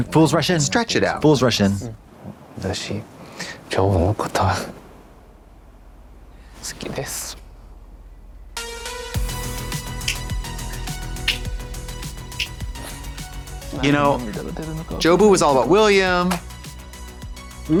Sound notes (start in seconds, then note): 7.9 joyful music; 11.0 Katya snapping